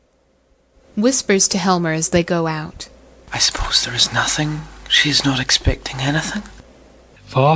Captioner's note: whispers to HELMER as they go out